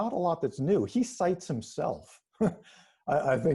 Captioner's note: chuckles